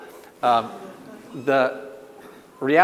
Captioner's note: audience laughs